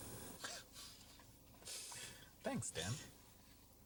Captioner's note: chuckling